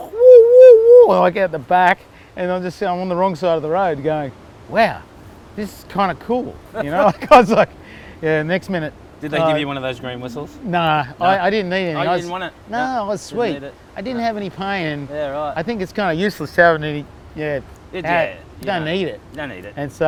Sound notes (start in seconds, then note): 6.7 laughs